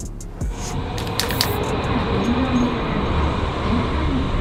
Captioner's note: train passing